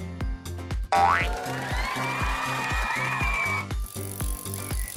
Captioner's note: applause